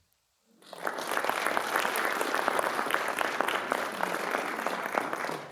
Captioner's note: attendees applauding